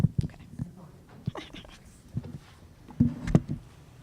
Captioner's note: chuckles